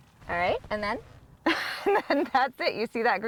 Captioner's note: laughs